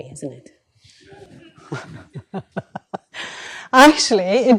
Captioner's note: laughter